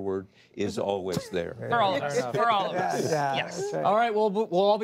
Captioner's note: laughter